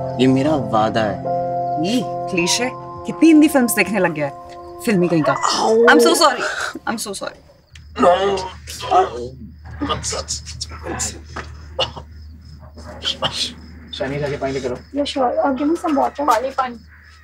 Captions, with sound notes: It's my promise. Ew, cliché. How many Hindi films do you watch? - You filmy buff! - [Adhish grunts] I'm so sorry! I'm so sorry! [Roy shrieks] [Groans] Go and get water! - Yes, sure! Give me some water! - Water! Water!